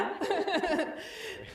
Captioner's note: laughs